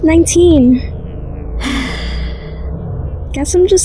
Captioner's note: sighs